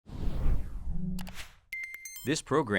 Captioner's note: whooshing; tinkling